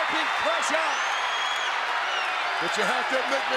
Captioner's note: audience cheers